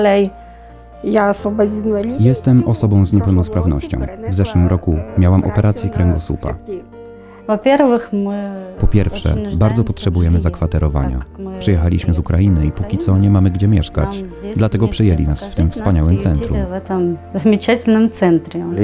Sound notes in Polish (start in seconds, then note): 0.8 mówi po ukraińsku; 7.5 mówi po rosyjsku